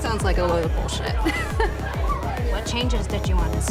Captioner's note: laughs